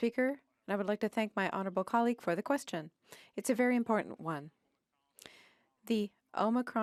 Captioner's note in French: voix de l'interprète